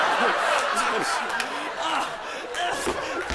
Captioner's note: groaning